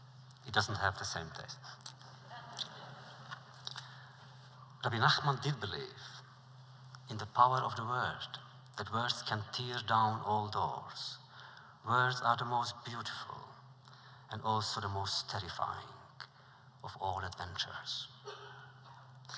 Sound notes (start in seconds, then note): 2.3 laughter